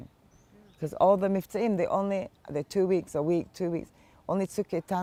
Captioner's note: hebrew